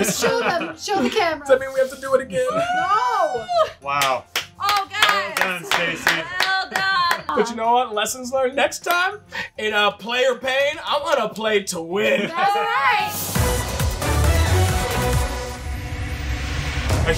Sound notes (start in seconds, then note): 4.0 clapping; 12.0 energetic dramatic music